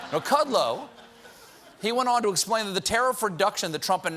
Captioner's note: laughter